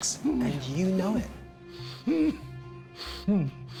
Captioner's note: groaning